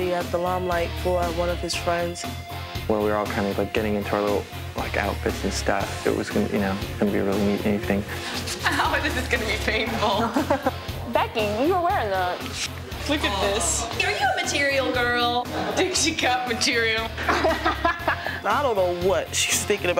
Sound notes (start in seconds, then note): 17.1 group laughing